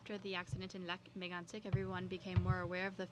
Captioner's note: speaking French